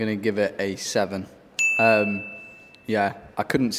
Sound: bell dings

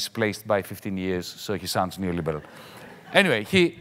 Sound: audience laughs mildly

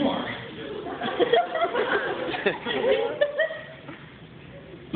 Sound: laughter

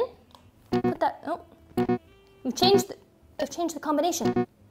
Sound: beeping

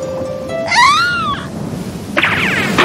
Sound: scream

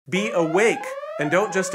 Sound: siren

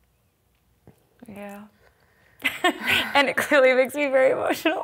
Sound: laugh

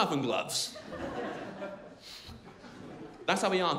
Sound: crowd laughing

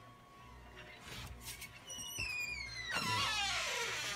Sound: door opens

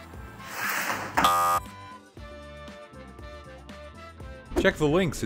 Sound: buzzer sounds

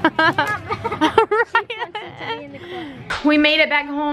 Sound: laughing

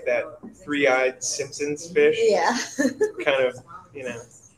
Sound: laughs

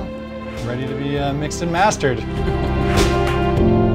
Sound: laughs

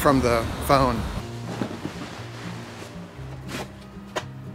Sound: canvas sheet spreads; thumping

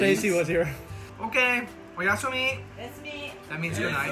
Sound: japanese

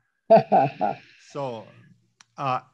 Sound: laughs

